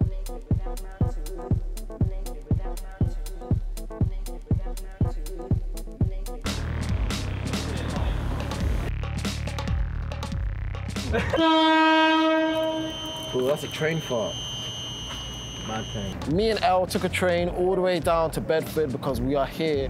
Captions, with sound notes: (soft pop music) (train honks loudly) - Ooh, that was a train fart. Me and El took a train all the way down to Bedford because we are here